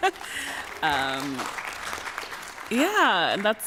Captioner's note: laughs; applause